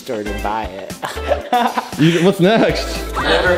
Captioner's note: laughs